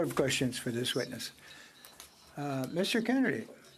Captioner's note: speaking French